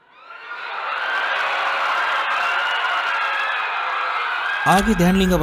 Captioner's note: people crying